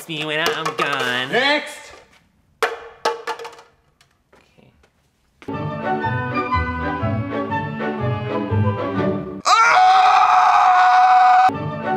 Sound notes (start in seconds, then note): 2.6 cup falls on ground; 5.4 playful music; 9.4 screaming; 11.5 playful music